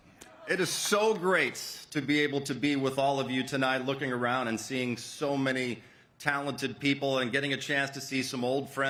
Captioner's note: cheers and applause